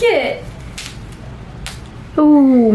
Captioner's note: fabric ripping